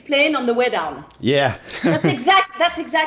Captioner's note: chuckle